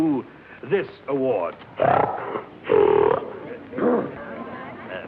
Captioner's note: pig snorts